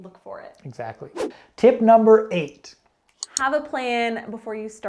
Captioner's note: air whooshing